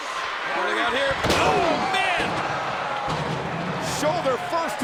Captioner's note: steel steps booming